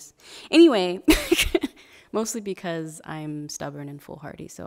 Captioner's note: laughing